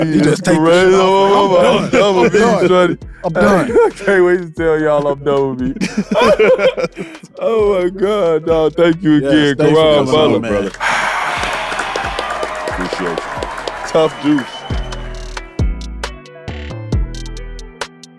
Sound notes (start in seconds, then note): 5.7 group laughing; 10.6 audience cheering; 15.3 mellow hip hop